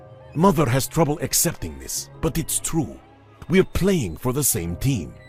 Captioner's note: none